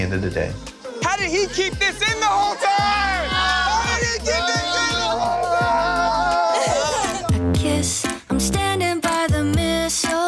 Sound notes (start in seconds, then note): 2.2 people cheering; 7.5 upbeat music